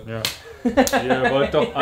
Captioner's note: laugh